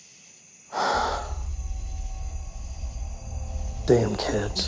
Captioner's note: exhaling